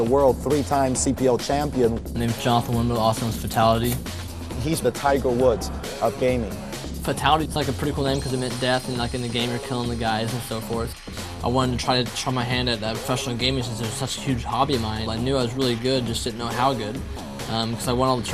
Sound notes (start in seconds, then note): none